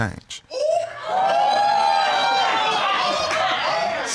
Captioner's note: crowd whooping